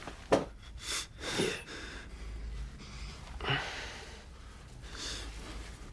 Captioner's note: Fahad breathing heavily